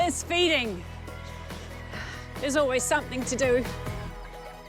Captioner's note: sighs